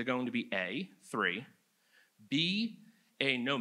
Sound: none

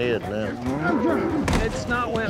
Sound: catmooing

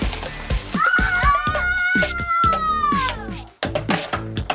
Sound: kids screaming; upbeat music

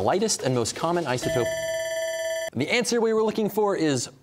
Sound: bell ringing

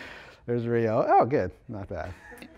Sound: laughter

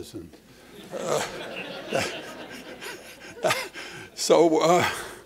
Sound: laughter

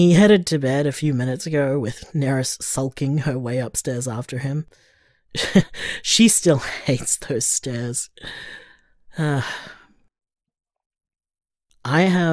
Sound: chuckles

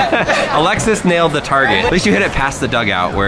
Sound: laughs

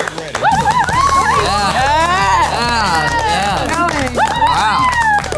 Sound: audience cheers

